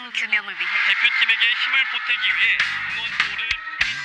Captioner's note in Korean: 라디오, tv소리